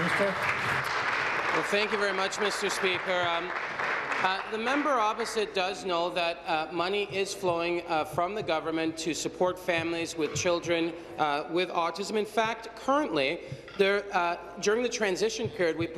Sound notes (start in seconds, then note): 1.5 applause